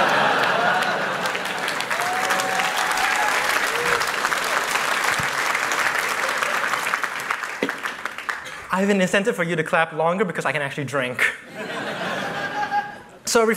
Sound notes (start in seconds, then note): 0.0 laughter, applause